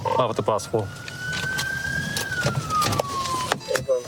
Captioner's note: sirens blaring